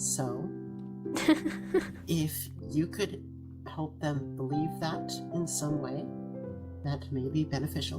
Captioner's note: ROSE laughs